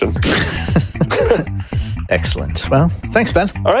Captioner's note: laughing